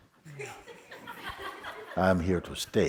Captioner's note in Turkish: Kahkaha